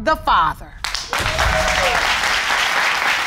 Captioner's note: audience applauding and cheering